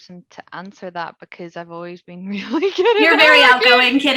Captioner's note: laughs